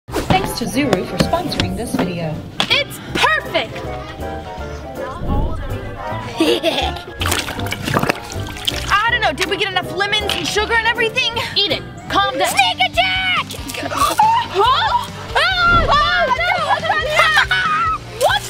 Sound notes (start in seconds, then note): 3.8 cheerful music; 6.2 laughing menacingly; 7.2 water blaster bubbling; 15.3 screaming; 17.2 laughing